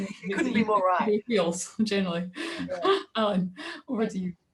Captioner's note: laughs